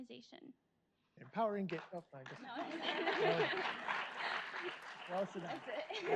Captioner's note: audience applauds